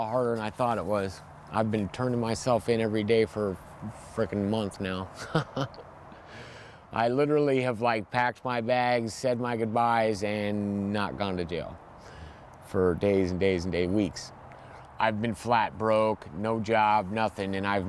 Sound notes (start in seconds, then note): 5.1 laughs